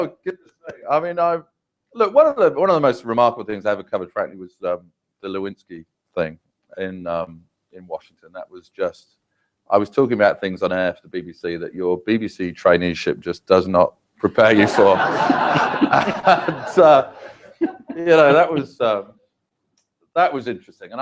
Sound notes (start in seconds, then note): 0.0 laugh; 17.2 laugh